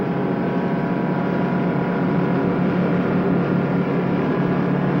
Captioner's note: truck engine whirring